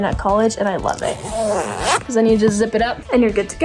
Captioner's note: zipper ripping